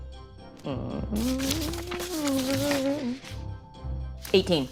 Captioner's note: papers rustling